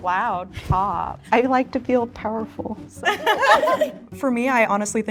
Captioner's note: everyone laughs